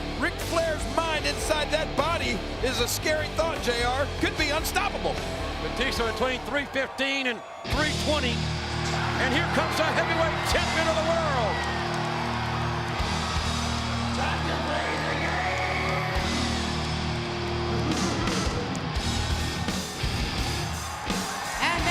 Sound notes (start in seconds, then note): 12.2 crowd cheering; 12.2 upbeat rock music; 17.4 upbeat rock music continues